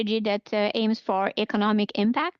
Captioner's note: speaking French